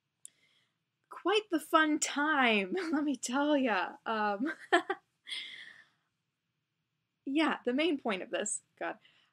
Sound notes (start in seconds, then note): 2.2 sarcastic; 4.5 laughs